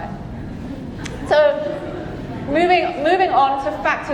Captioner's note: audience chuckling